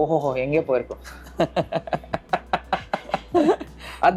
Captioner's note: laughs